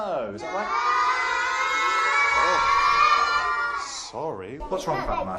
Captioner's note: shout together